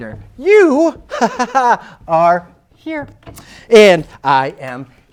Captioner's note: laughs forcedly